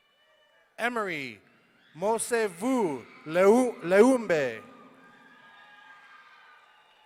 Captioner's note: audience cheering